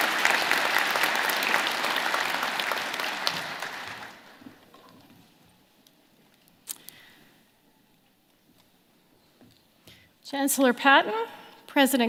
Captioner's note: applause